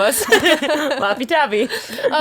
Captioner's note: laughing